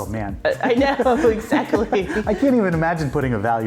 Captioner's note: both laughing